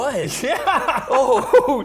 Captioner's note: laughs